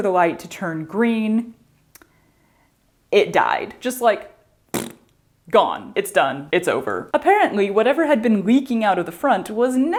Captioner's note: mouth fart